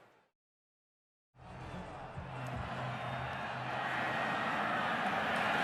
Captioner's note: onfield chatter